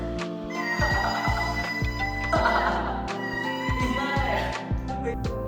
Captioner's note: My Melody screams